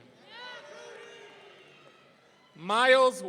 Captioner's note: audience cheering